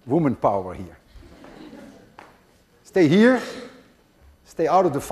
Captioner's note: class laughs